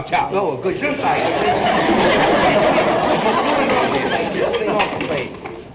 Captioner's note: audience laughter